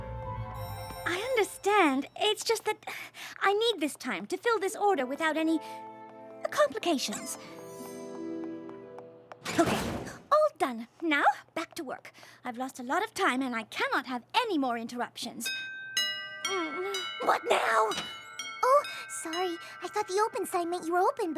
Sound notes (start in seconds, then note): 15.5 doorbell rings